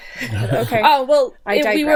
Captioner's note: laughing